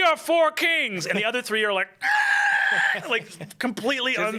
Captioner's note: screeches